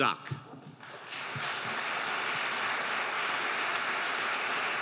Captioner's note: audience applauding